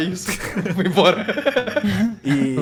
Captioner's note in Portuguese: risos